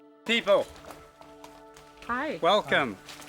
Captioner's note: speaking in a native language